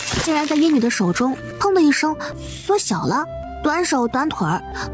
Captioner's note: pop